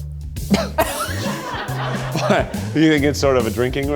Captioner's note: audience laughs